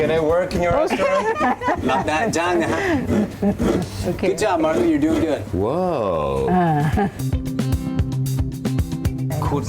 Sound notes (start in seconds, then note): 0.8 laughing; 3.9 coconut shredding